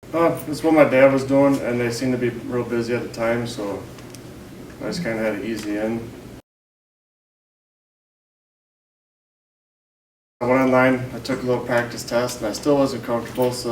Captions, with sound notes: It's what my dad was doing and they seemed to be real busy at the time so I just kind of had an easy in. [Silence] I went online, I took the little practice test and I still wasn't comfortable so